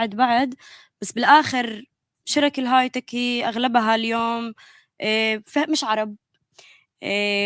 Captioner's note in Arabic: لغة أجنبية